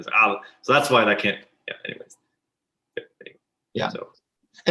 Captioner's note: murmuring